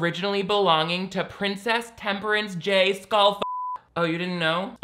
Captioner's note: beep